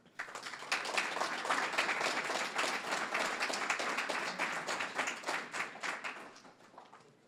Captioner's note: applause